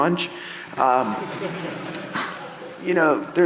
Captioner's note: audience laughing